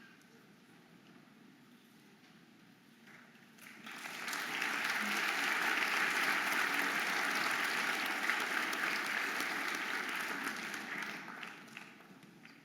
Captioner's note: audience applauding and cheering